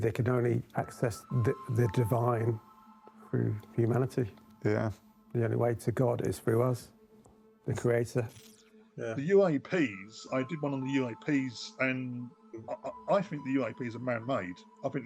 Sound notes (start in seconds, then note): 7.7 light crackling